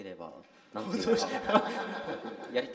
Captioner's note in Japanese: 笑い